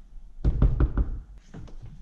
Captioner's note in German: klopfen